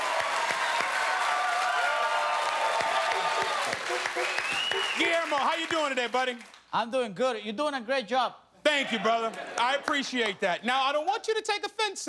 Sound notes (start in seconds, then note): 2.5 cheers and applause